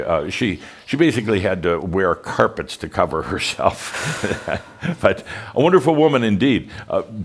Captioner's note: Adamus chuckles